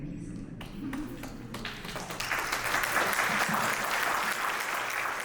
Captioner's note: audience applauds